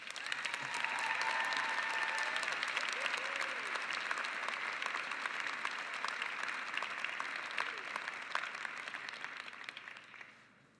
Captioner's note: cheering and applause